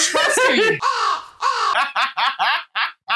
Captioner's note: caw